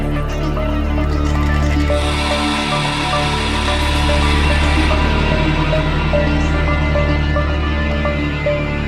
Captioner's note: eerie clicking and scary, breathy echos